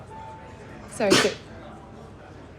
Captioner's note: sneezes; sneezes again